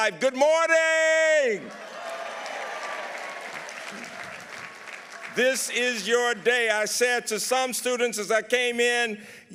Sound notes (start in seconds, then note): 1.6 audience applauding